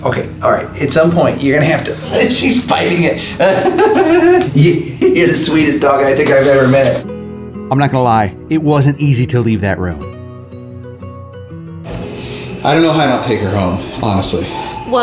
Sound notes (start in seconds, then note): 2.9 laughs